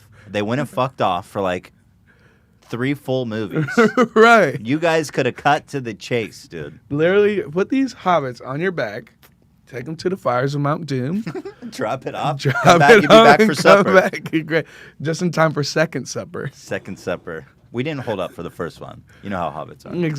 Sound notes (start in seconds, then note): 4.1 laughs; 11.2 snickers